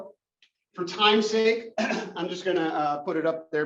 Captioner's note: cough